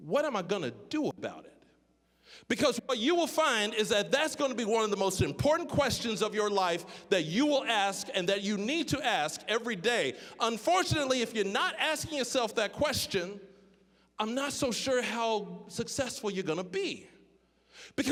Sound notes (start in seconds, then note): none